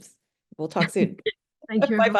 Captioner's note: both chuckling